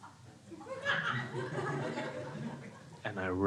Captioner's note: crowd laughing